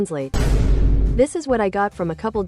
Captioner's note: Vine Boom Sound Effect